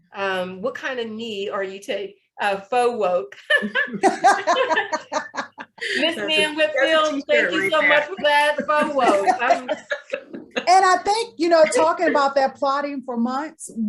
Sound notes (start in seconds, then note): 3.4 participants laughing